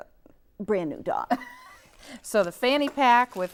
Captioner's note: laughs